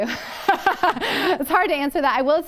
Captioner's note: laughter